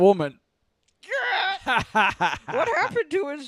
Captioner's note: more obnoxious cackles